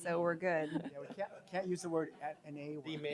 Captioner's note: laughter